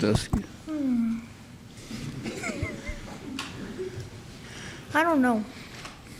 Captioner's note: crowd laughs